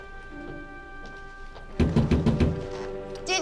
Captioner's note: knocking on window